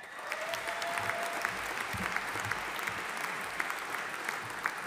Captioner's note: audience applauding